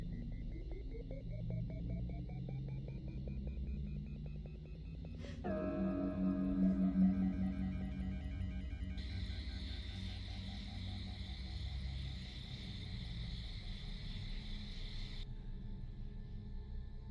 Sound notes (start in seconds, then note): 5.4 dramatic music; 9.2 insects chirping